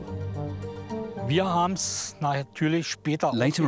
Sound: speaking German

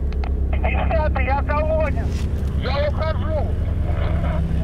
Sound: radio exchange

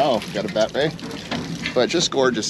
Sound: fish splashing; chuckling

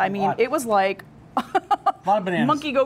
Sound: laughs

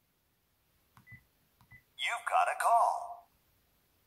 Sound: phone

